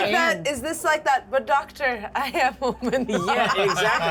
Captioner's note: laughter